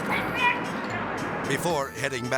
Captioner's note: shouting